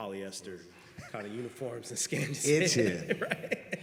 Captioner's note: laugh